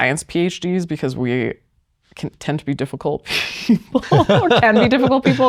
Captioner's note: laughs